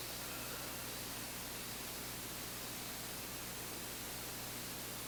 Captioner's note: exhaling